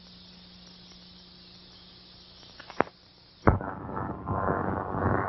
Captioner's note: thunder